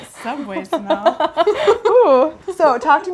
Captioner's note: laughing